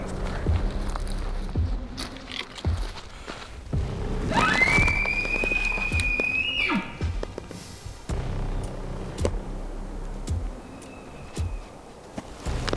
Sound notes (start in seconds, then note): 4.3 caller bugling; 10.5 elk bugling